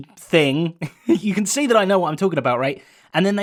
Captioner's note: giggles